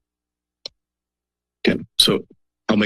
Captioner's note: silence